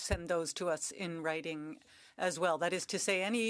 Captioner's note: speaking French